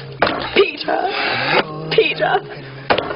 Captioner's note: smack; smack